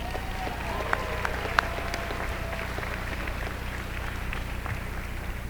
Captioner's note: applause